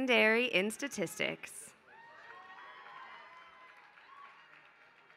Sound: applause

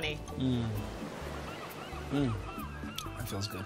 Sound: beach sounds

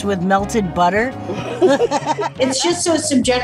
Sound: both laugh

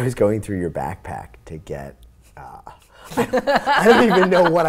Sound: laughs

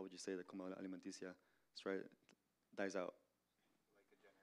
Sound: Spanish language

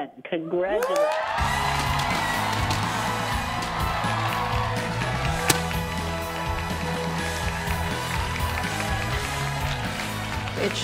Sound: cheering

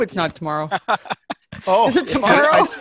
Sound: laughing

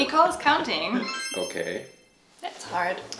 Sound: chimes

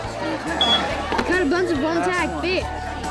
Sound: beep

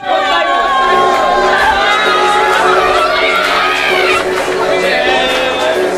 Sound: crowd yelling and cheering

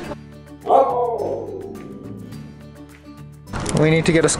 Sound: Laska howls

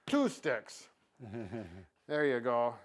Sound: chuckles

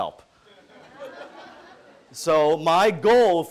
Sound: audience laughing

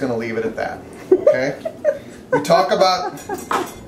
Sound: sister laughs

